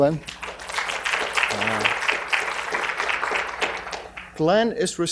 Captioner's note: audience applauding